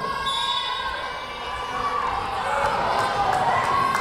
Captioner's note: whistle blowing